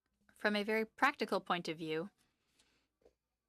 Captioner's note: speaking French